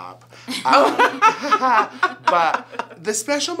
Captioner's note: all laugh